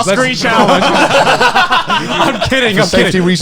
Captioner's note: men laugh